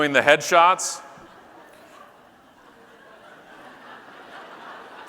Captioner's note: audience laughing